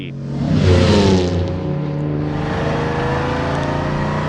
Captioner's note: engine revving